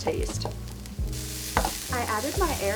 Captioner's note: frying pan sizzles